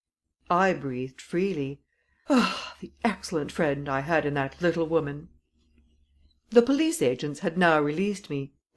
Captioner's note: sighs